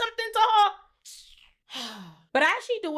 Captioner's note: sighs